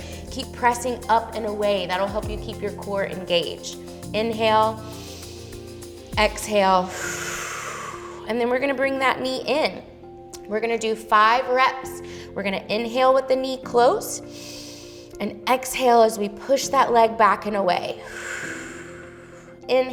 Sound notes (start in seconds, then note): 5.1 inhales; 6.8 exhales; 14.4 inhales; 18.0 exhales